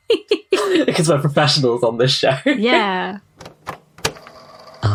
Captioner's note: tape recorder clicks on